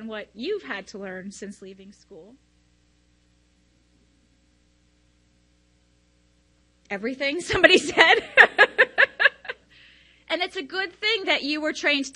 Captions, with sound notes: what you've had to learn since leaving school? "Everything." somebody said. (laughs) And it's a good thing that you were trained